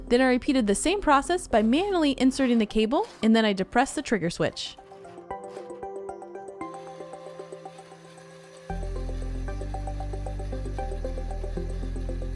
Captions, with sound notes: Then I repeated the same process by manually inserting the cable, and then I depressed the trigger switch. (soft upbeat music) (machine whirring)